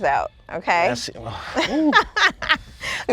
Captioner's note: laughs